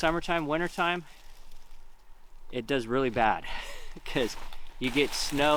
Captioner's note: chuckles